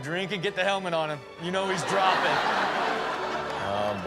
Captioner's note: audience laughs